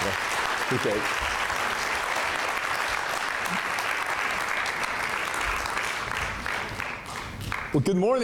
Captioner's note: applause